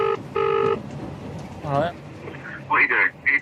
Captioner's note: ringing tone